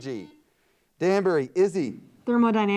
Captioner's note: buzzer beeps